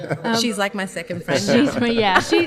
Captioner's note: laughs